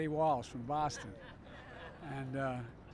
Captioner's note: laughter; Pronounced in Boston accent